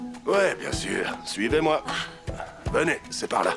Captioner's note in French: Becca soupire